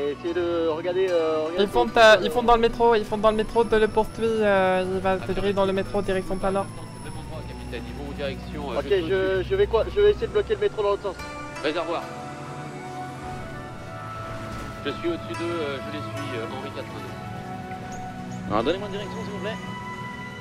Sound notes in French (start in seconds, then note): 18.2 radio